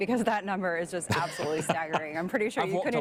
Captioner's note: laughing